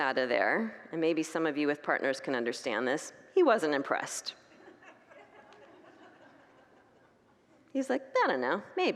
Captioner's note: congregants laugh